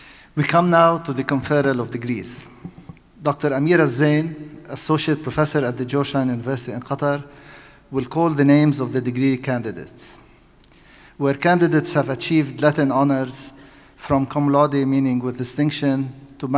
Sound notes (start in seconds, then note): none